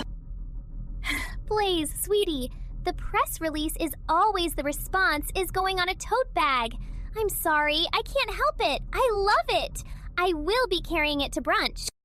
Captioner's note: breath